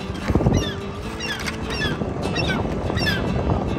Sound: relaxed guitar music; bird chirps

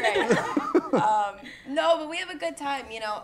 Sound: laughter

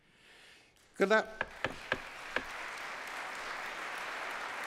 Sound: applause

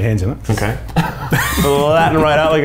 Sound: all laughing

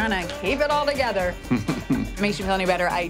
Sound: chuckles

